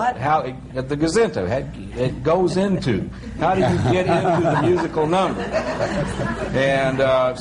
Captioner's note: laughter